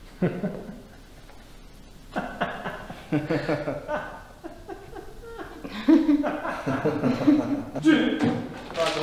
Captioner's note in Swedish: laughter